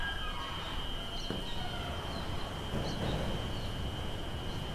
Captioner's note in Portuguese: Porta fechando